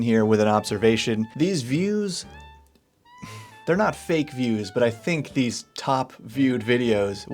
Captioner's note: sigh